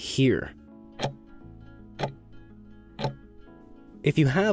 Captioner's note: timer ticking